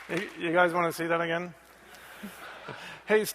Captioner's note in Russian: Смех